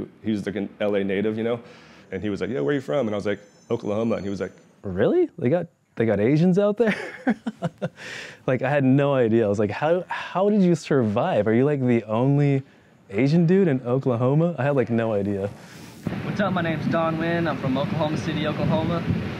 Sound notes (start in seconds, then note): 6.8 laughs